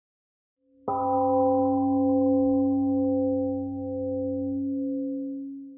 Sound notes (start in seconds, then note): 0.9 temple gong rings and fades